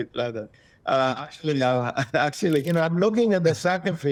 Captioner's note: chuckles